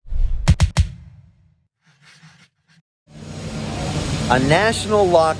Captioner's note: pencil scribbling